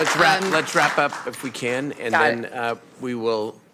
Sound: applause

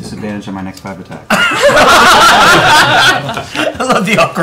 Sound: laughter

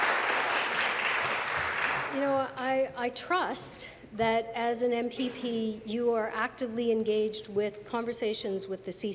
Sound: applause

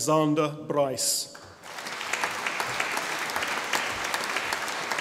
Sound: audience applauding

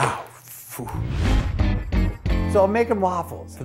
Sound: swoosh + music

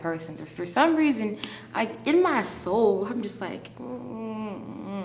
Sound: winces

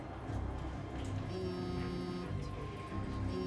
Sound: cellphone vibrates

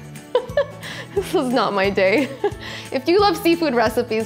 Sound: laughs

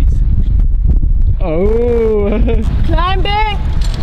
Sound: laughing

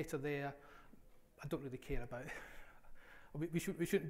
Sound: laughs

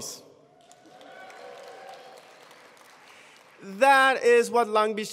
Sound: attendees applauding

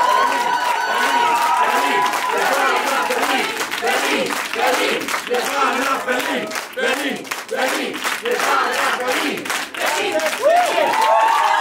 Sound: berlin cheering

